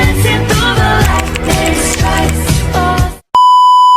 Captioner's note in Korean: 찰칵찰칵